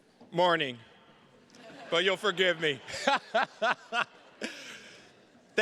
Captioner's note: everybody laughing